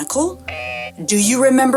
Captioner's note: buzzer sound